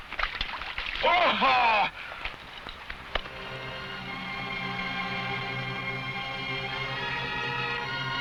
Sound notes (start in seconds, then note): 0.0 water splashing; 1.1 man shouts; 3.1 somber music